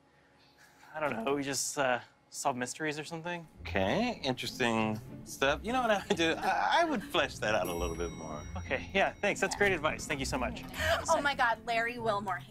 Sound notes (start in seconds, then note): 10.4 gasps